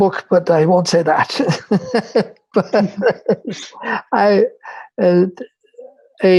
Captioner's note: laughter